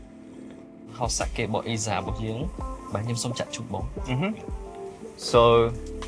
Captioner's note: Khmer